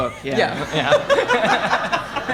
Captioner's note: audience laughing